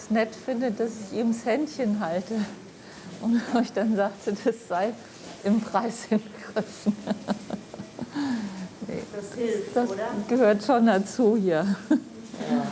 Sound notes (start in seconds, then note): 3.7 laughing